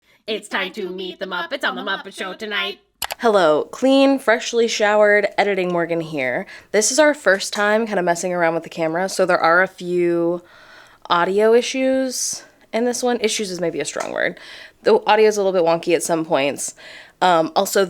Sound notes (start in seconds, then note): 3.0 mouse click